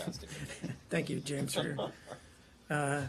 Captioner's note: laughter